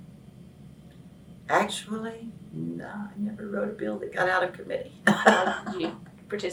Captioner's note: laughs